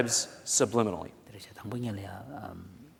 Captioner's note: foreign Language